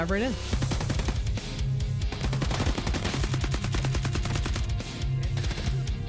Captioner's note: upbeat drum music; machine gun firing